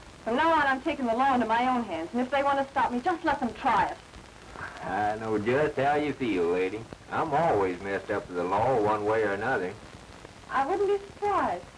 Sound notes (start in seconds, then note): none